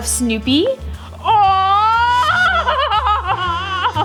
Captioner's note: laughs